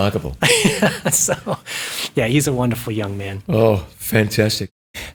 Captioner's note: laughs